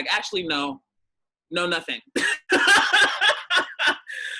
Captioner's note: laughs